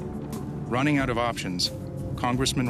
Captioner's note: voiceover